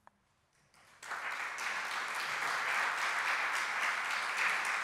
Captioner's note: applause